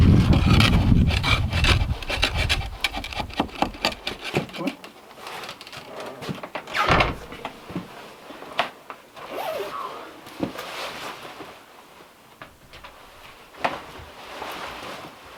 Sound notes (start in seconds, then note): 0.0 metal scraping; 6.6 door creaking